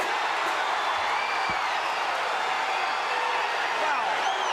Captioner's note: crowd cheering